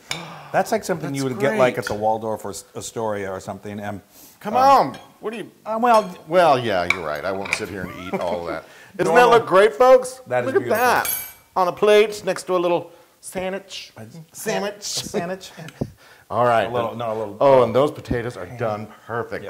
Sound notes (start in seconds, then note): 15.5 laugh